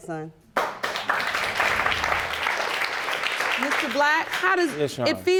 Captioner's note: audience applauding